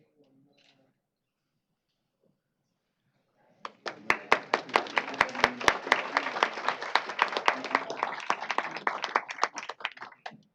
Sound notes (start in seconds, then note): 3.6 applause